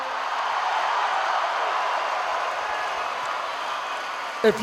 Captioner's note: crowd cheering